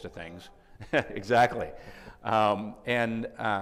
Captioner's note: chuckles